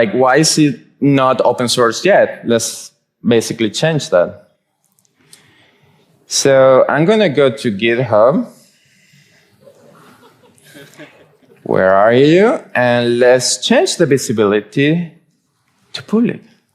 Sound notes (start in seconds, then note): 9.6 audience chuckling